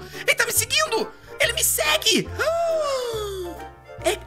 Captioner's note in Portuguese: faz som de surpresa